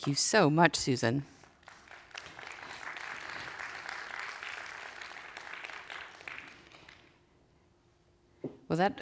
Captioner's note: applause